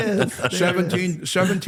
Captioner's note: laughter